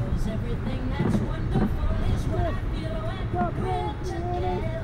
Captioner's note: banging from the back